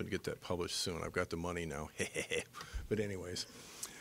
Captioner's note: laughing deviously